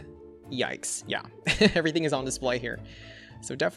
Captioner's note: laughs